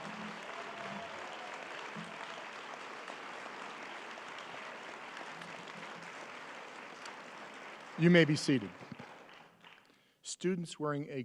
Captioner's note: applause